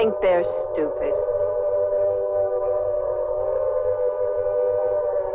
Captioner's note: sirens blaring